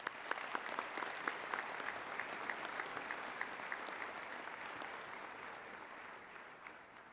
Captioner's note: applause